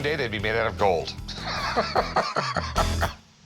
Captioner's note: laughs